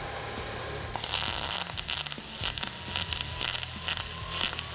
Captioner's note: welder hissing